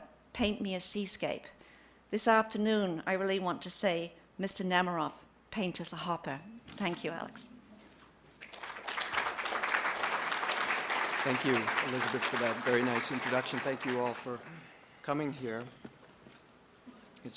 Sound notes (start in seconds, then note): 10.2 applause